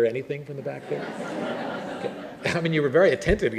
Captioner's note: laughter